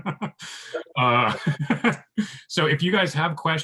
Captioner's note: laughs